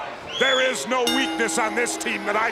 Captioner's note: bell rings